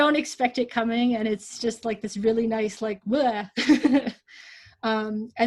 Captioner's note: makes blegh sound and laughs